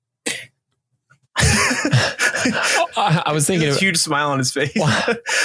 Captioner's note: laughing